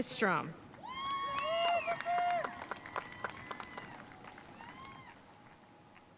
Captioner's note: audience cheering and applauding